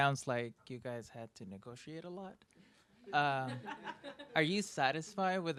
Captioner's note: ladies laughing